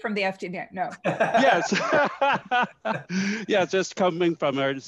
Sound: laughs

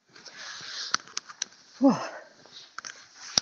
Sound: sighs

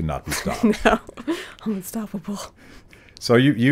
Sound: laughs

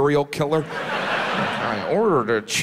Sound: audience laughs

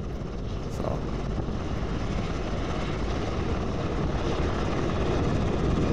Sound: helicopter whirring

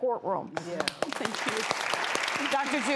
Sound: audience clapping

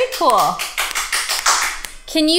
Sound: clapping in background

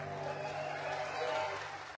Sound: applause, cheering

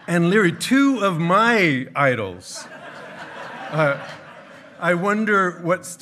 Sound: hearty laughing

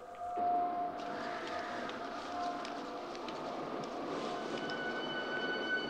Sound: wind howling; dramatic music

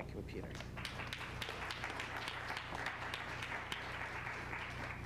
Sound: applause

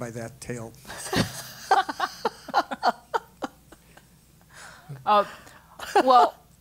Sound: laugh

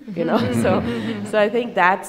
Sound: laughing

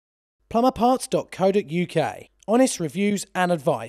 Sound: voiceover

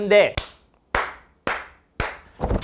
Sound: clapping

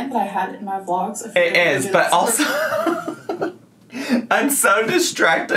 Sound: laughs

